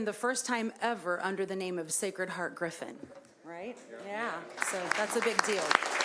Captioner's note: applause